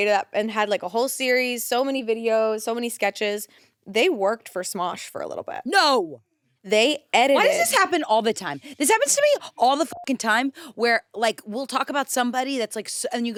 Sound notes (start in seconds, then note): 9.8 beep